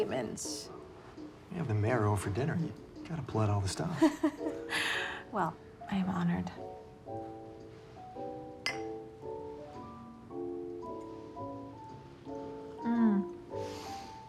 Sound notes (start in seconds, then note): 4.1 laughing